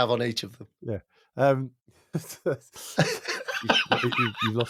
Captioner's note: both laugh